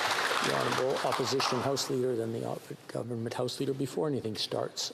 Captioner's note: applause